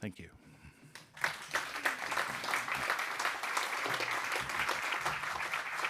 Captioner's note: audience applauding